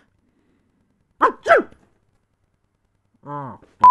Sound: sneeze

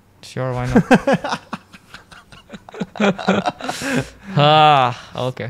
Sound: laughs

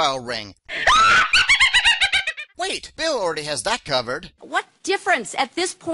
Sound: sound of witch's laughter

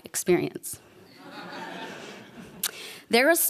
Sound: laughter

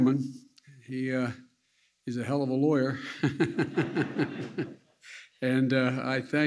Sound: laughter

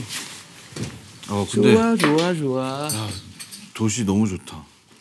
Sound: he is humming

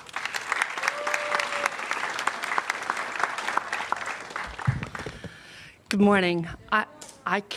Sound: applause

